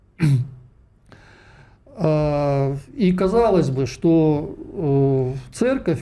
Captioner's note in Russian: откашливается